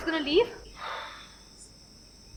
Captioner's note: DEV exhales